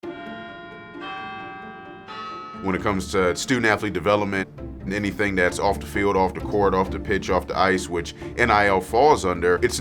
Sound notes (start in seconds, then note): 0.0 soft music; 0.0 bells ringing